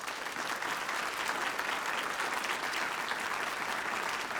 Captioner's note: applause